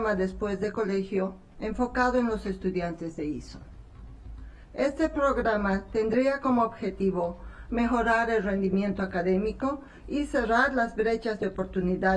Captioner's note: speaking spanish